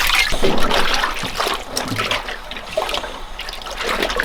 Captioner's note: water sloshing